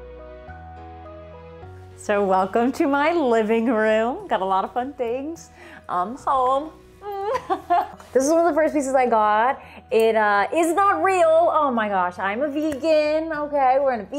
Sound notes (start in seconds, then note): 5.5 Amy laughing